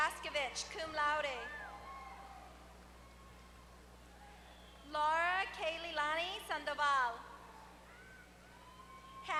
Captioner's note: applause